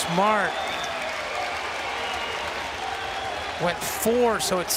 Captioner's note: crowd loudly clapping and cheering